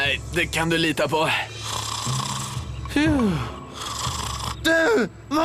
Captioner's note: snoring